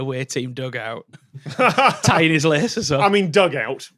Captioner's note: laughs